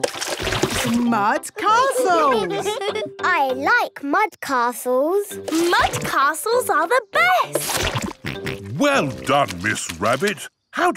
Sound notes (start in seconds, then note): 1.7 all giggling